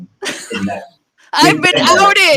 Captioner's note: laughing